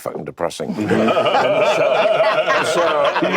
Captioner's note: laughter